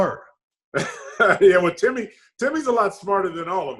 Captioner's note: laughs